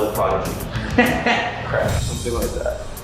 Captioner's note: laughing